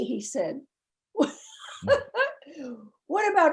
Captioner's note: laughing